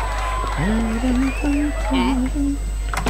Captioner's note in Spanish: tararea el tema musical del juego